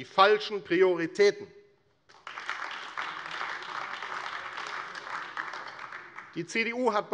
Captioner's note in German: Beifall AfD